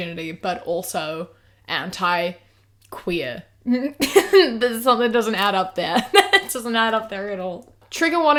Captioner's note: laughs